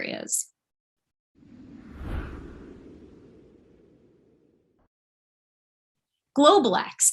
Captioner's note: light Whoosh